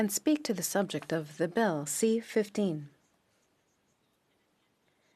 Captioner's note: speaking French